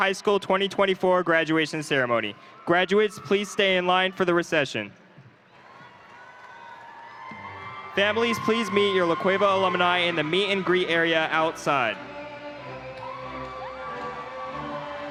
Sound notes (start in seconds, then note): 12.7 crowd applauding; 12.7 crowd cheering